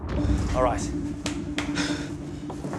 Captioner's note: sighs